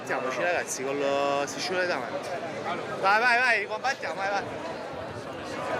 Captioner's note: speaking in foreign language